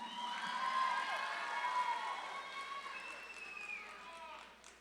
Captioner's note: audience claps and cheers